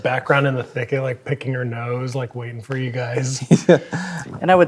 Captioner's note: laughs